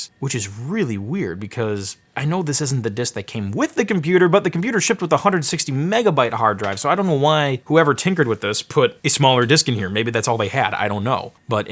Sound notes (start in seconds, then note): none